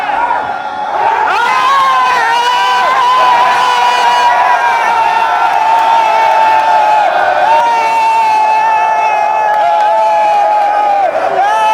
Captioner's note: cheering